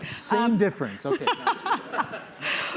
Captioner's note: laughter